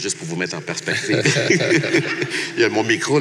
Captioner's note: laughs